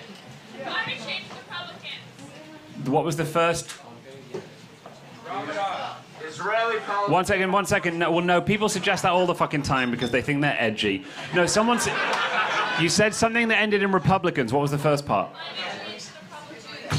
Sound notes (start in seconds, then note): 0.3 crowd talking; 4.2 crowd talking